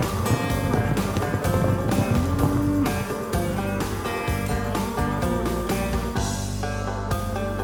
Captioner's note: cattle moo